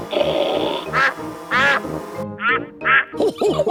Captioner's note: snorting; quacking; laughter